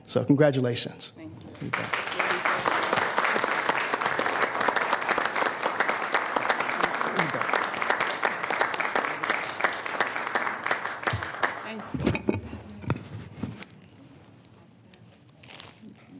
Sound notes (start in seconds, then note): 9.8 applause